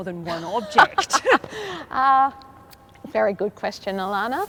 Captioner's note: laughs